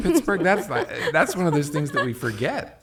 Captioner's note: laughs